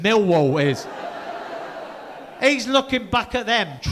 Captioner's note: audience laughing